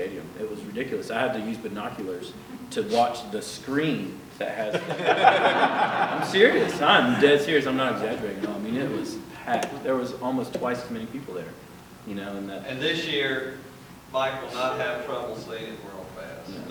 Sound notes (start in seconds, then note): 4.6 laughter